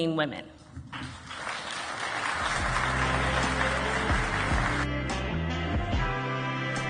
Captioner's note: instrumental music; audience applauding